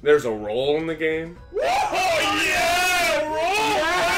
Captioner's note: all exclaim